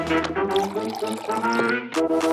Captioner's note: coffee trickling; page flipping; mug hitting table